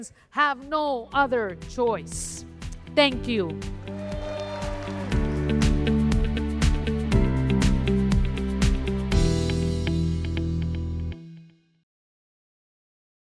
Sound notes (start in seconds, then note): 7.6 cheers and applause; 9.0 uplifting music